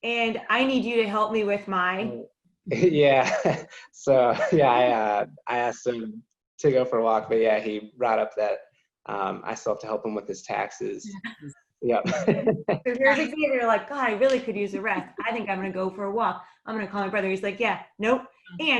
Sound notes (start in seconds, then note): 4.0 laughing; 11.9 laughing